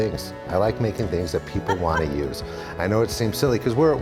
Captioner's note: laughing